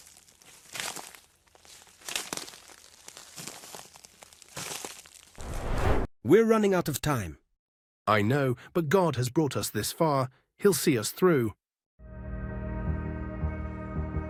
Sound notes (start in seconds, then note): 5.4 air whooshes; 12.4 tense music